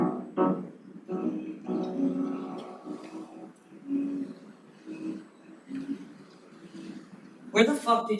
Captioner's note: humming